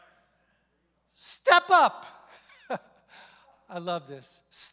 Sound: chuckles

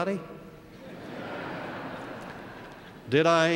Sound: laugh

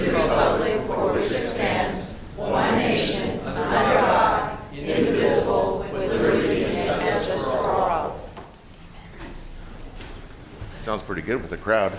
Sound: reciting the pledge of allegiance

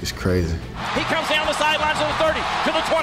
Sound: voiceover

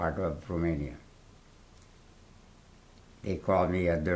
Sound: pauses for 3 seconds

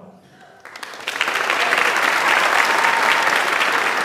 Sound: audience applauds

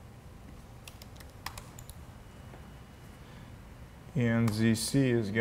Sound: keyboard typing

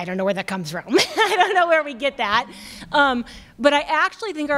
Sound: chuckles

